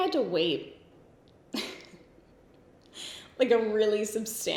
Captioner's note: giggles